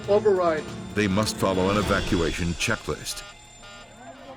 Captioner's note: voiceover; alarm continues